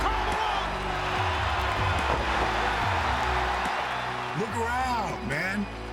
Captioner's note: applause